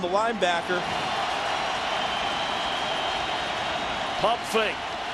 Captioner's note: crowd cheering